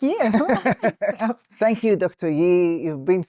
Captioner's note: laughing